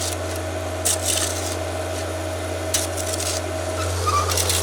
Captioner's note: skid steer engine rumbling